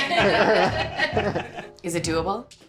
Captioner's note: team laughing